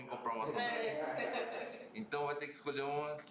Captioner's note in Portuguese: risos